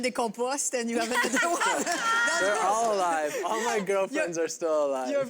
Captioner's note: laughter